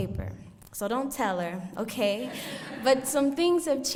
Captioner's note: audience laughs